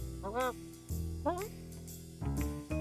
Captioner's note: mutters